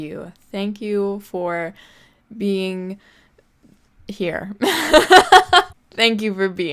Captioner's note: laughs